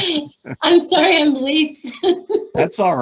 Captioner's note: laughing